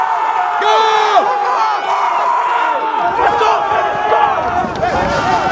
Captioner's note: trainees yelling